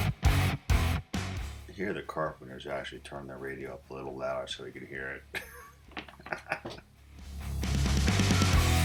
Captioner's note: laughs